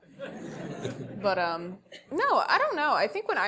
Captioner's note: laugh